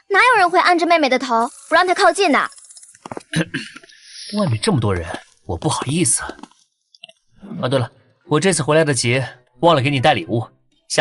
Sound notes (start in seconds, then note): 3.3 cough cough